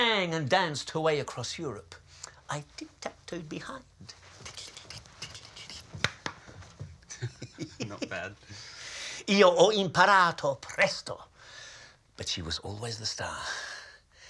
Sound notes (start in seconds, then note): 3.9 laughs; 8.9 speaks foreign phrase